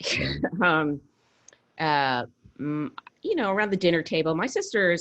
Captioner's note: laughs